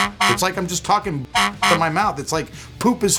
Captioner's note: horn honking